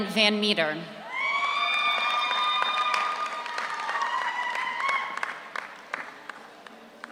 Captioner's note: audience cheers; audience applauds